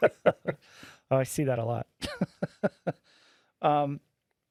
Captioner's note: laughing